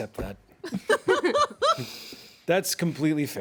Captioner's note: everyone laughs